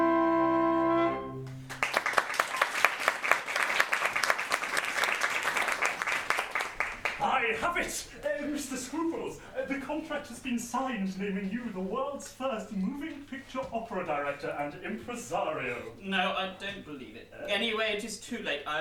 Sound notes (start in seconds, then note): 1.4 applause